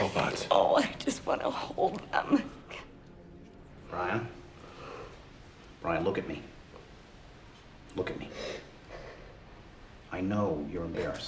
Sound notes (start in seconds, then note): none